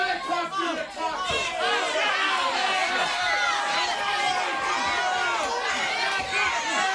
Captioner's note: crowd chattering